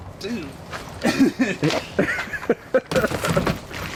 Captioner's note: all laughing